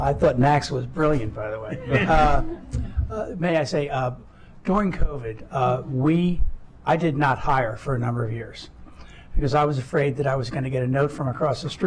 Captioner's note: laughter